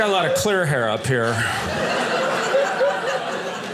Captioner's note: audience laughing